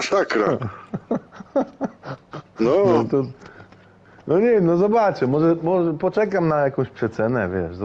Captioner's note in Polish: śmiech